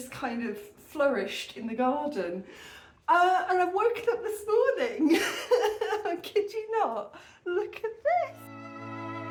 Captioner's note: laughing; string quartet